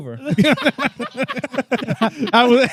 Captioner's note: laughing